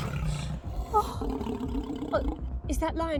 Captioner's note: lion growling